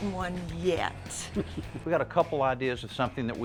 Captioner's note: chuckles